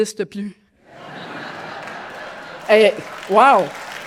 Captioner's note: laughter; audience applause